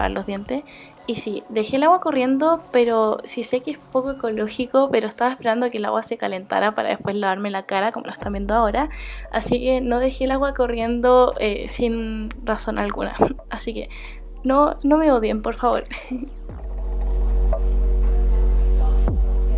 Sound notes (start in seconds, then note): 15.9 laugh